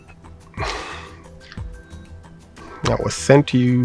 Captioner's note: messenger sighs